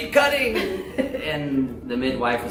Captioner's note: laughter